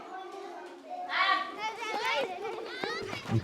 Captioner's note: children playing